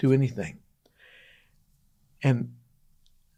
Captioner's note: pause